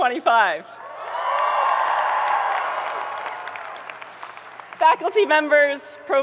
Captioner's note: audience cheering and applauding